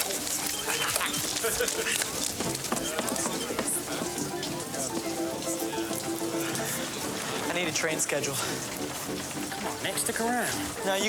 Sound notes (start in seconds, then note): 0.2 laughing; 5.0 lively music; 5.0 people chattering